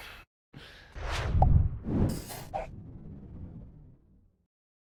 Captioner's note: whoosh noise